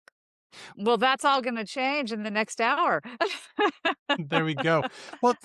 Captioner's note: laughs